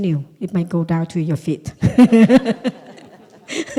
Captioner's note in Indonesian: Suara tertawa